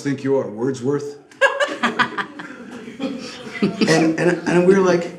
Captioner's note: laughs